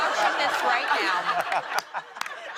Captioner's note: laughter